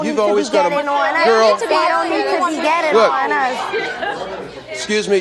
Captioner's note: overlapping chatter